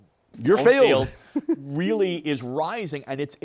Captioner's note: chuckles